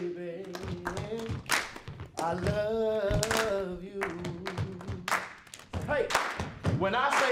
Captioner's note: stepping and clapping